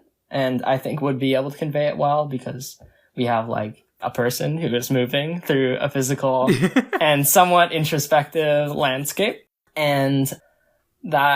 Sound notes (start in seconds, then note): 6.4 laughs